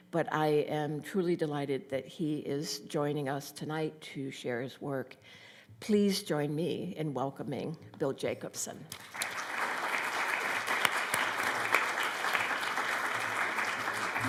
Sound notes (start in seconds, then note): 8.9 applause